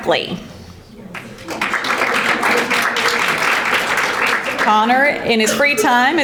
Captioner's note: audience applauding